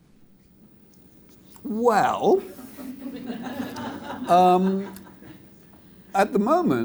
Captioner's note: audience laughs